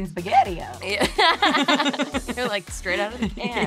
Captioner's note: laughing